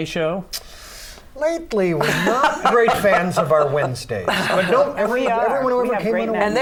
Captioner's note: laughter